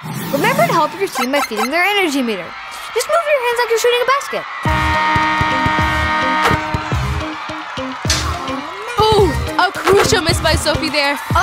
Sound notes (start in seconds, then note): 4.7 horn sounding; 6.3 upbeat music